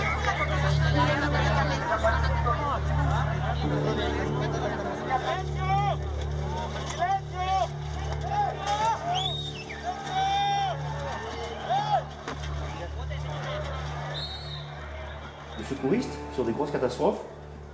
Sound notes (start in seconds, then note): 8.6 whistling; 11.3 murmurs; 11.3 whistling; 15.6 murmurs